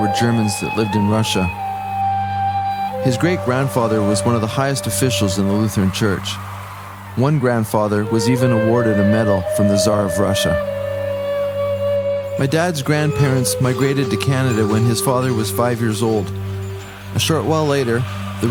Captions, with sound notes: Germans that lived in Russia. His great grandfather was one (crowds cheer) of the highest officials in the Lutheran Church One grandfather was even awarded a medal from the czar of Russia. My dad’s grandparents migrated to Canada (horse hoof sounds) when his father was five years old, and short while later the